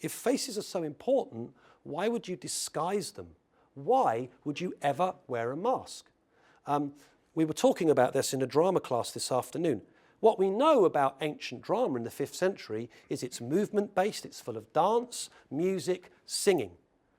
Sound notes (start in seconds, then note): none